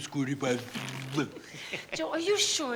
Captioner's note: spluttering playfully